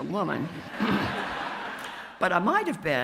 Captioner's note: audience laughs